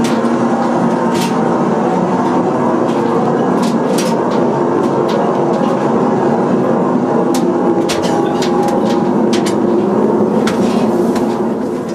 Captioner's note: engine running